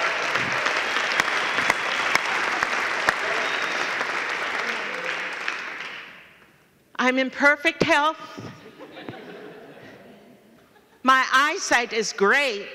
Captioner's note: laughter and cheers